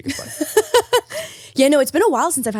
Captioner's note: laughing